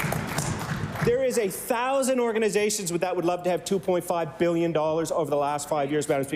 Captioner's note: applause